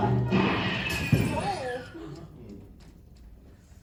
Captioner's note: old-timey gun shot